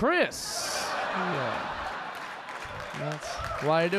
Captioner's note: audience laughing